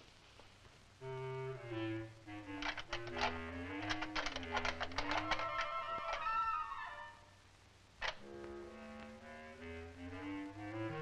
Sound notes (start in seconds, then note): 1.0 whimsical music; 2.6 lock clicking